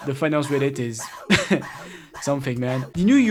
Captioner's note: chuckle